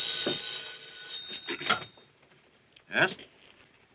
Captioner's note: phone rings; clears throat